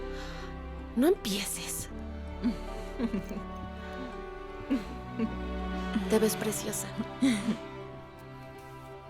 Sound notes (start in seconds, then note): 2.9 Esperanza ríe; 5.1 Esperanza ríe; 7.2 Faith ríe